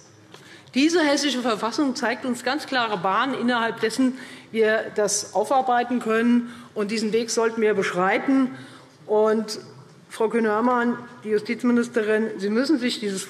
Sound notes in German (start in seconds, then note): none